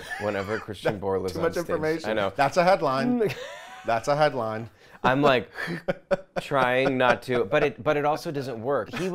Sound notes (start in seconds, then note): 3.2 laughs; 5.7 sucks in air